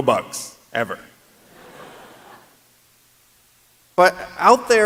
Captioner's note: laughter